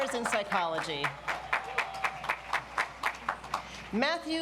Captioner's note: audience applauds